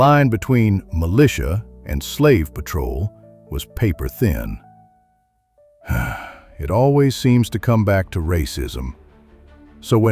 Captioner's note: sighs